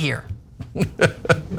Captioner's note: laugh